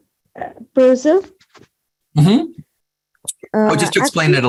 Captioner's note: non-english